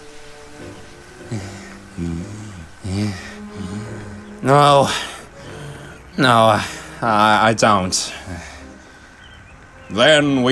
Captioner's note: pants